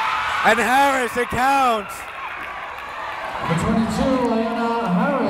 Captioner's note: cheering